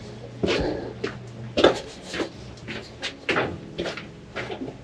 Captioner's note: footsteps crunching on gravel